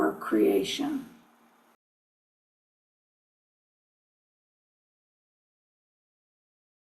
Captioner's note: moment of Silence